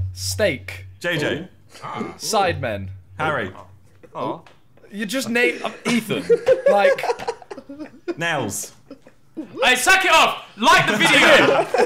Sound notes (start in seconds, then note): 7.0 laughing